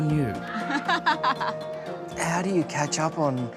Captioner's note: laughing